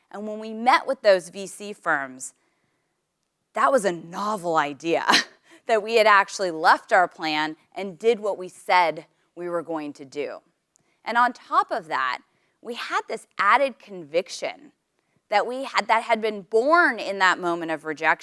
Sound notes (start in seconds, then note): 5.0 laugh